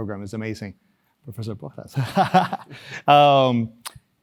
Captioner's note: laugh